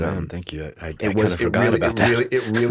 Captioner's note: chuckles